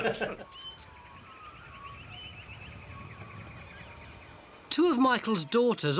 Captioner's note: both men laugh; birds chirping